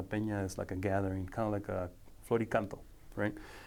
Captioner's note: speaking foreign language